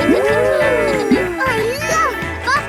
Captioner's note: kids gasping and laughing